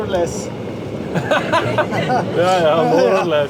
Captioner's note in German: lachen